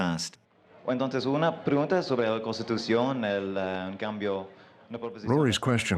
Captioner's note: speaking Spanish